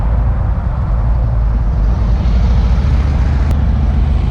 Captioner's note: engines rumble